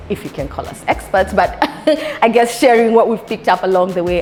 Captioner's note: laughs